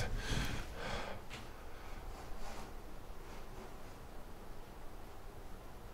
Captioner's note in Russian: Шуршание из коридора